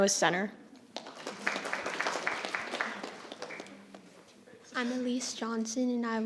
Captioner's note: audience applauding